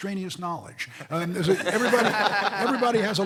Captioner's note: laughing